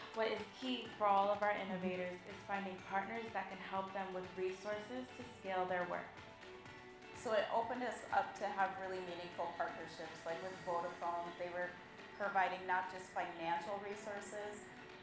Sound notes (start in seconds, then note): none